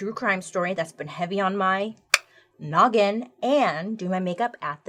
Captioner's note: clicks tongue